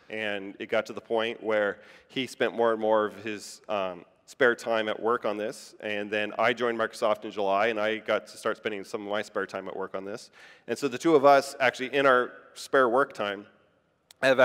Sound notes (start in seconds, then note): none